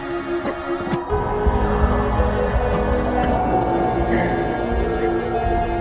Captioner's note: animals howl